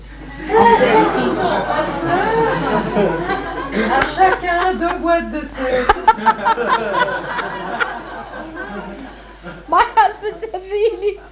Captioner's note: laughter